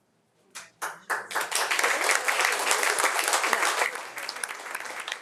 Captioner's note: audience applauding